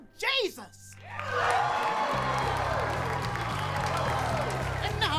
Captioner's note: cheering